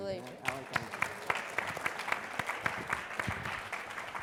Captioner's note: all applauding